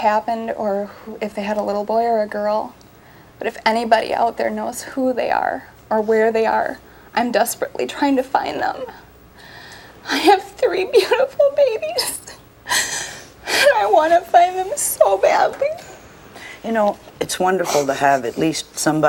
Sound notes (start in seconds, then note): none